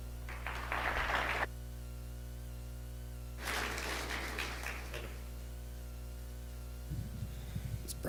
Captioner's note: applause